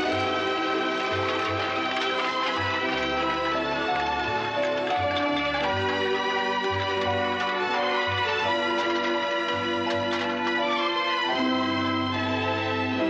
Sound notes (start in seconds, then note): 0.7 gentle music; 7.4 chattering, gentle music